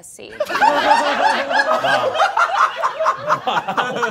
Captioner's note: all laughing